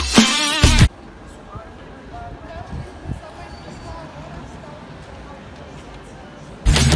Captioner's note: eating ice cream LOUDLY and looking at a 2-cylinder motorcycle